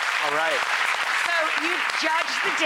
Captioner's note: clapping